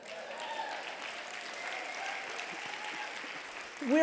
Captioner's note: applause